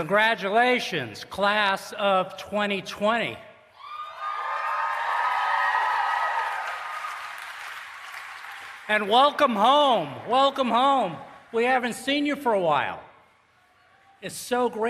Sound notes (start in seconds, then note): 3.9 applause and Cheering